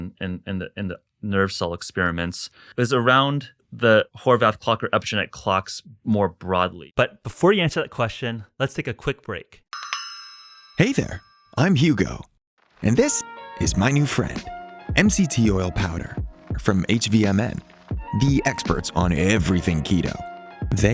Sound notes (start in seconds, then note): 9.7 bells chiming